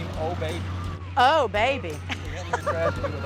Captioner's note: chuckles